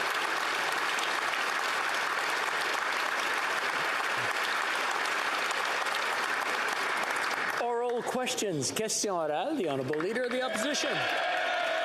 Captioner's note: applause